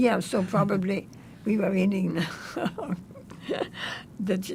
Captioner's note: laughing